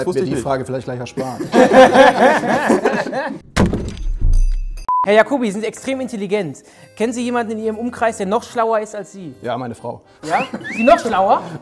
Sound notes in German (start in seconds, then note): 3.2 Lachen; 3.5 Knall